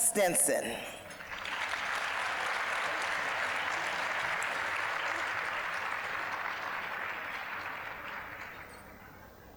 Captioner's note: applause